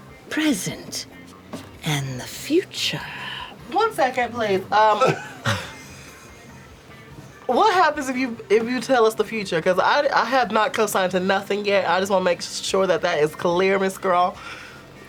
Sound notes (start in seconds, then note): 4.9 laughter